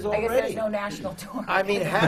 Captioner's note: laughter